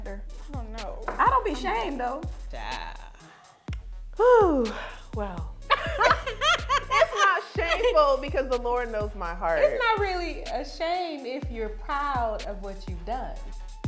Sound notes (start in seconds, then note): 5.7 laughing